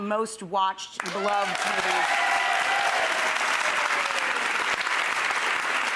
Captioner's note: audience applauding